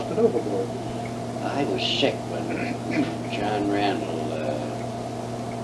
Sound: clears throat

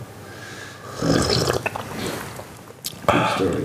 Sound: slurping

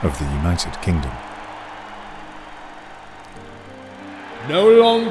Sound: people cheering

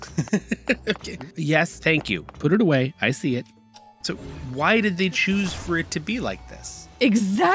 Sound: laugh

